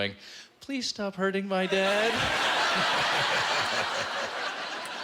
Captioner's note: laughter